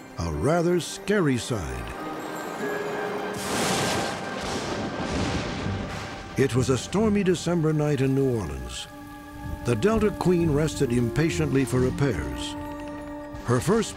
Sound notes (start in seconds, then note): 2.2 mysterious music; 3.4 thunder